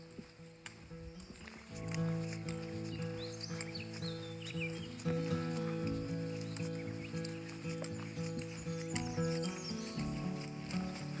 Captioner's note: birds chirping